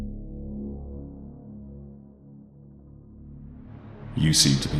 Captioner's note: echoing